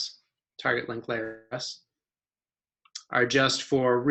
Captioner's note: audio cuts out